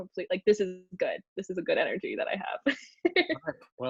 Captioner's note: laughs